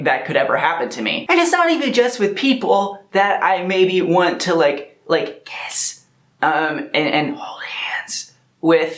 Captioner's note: whispers